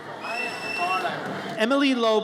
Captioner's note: audience cheers